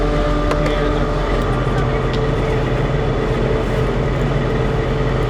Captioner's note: police radio chattering